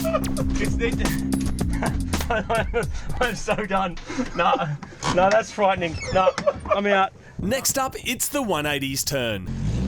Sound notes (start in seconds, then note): 1.6 both laughing